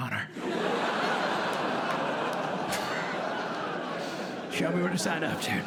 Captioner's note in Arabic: ضحك